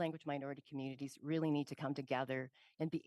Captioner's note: speaking French